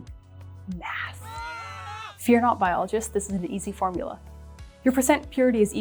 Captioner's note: screaming